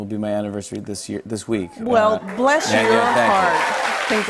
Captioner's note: cheers and applause